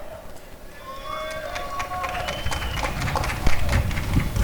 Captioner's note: applause and cheering